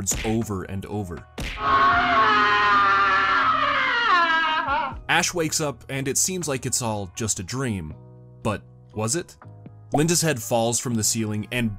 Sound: screaming

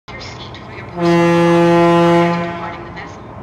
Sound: horn blowing

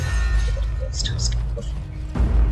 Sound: muttering

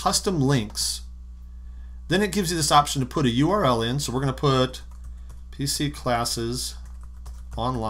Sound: typing

